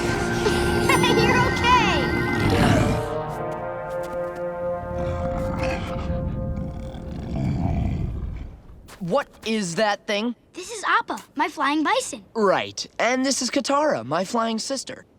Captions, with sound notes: [laughing] You're okay. [grunting] What is that thing? This is Appa, my flying bison. Right. And this is Katara, my flying sister.